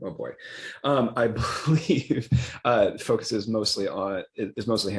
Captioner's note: laughs